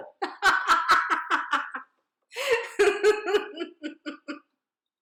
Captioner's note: laughs